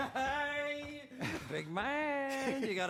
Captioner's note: frank chuckles